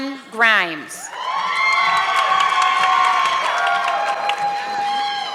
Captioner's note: audience clapping